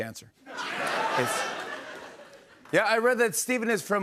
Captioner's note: laughter